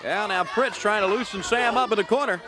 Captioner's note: crowd cheering